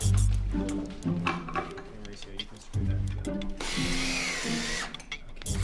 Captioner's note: drill sounds